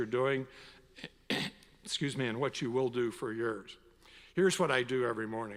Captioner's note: coughs